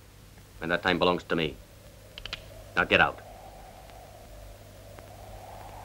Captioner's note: gun clicks